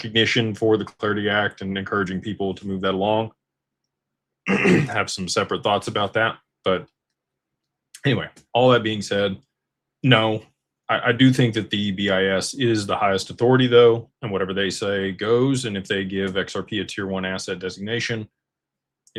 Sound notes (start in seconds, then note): 4.4 clears throat